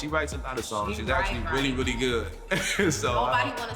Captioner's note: laughs